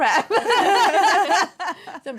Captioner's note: laughter